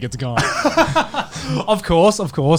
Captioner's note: laughs